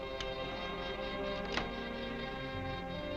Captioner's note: lock clicking